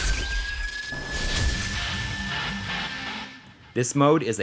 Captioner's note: game audio